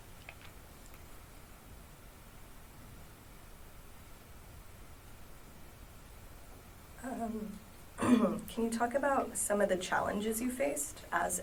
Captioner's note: clears throat